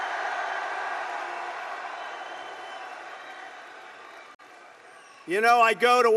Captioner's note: applause